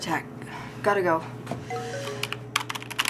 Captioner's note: phone chimes